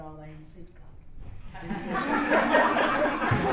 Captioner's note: laughter